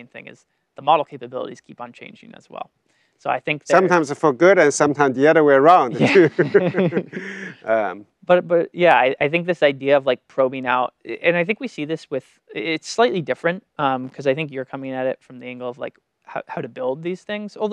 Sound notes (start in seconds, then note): 5.9 both laugh